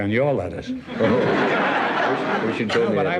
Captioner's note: audience laughs